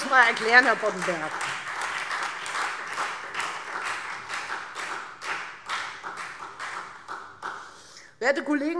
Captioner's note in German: Beifall Freie Demokraten und SPD